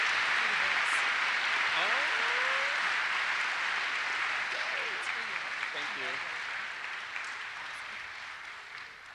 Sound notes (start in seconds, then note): 1.4 indistinct conversation